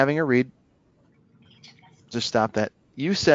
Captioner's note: automated voice mumbles